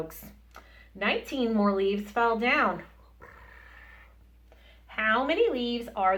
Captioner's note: purr